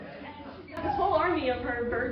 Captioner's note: laughter